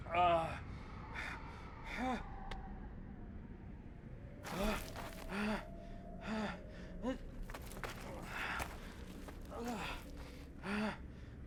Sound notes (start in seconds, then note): 2.1 groans; 7.9 breathes heavy